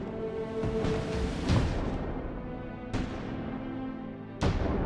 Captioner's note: bombs blasting